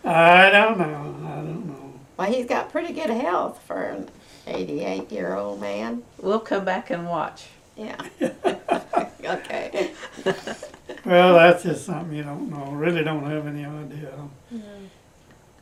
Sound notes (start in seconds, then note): 8.0 laughter